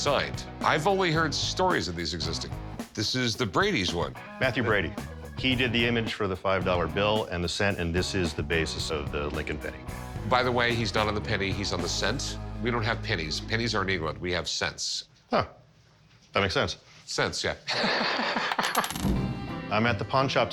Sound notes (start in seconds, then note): 17.7 laughs; 18.6 coin clatters